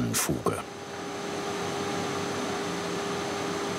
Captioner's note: machine noise